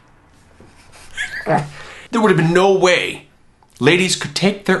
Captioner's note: cackling